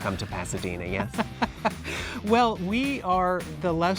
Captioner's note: laughs